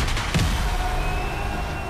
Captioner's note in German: Pfiffe